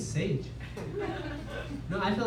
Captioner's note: laughter